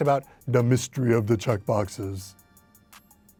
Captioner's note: in deep voice